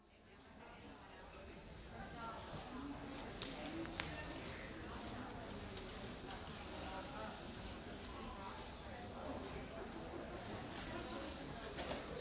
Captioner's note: audience chatter